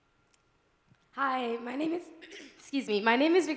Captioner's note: clearing throat